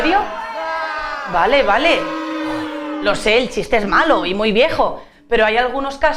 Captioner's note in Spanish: Abucheos